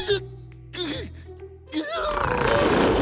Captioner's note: moans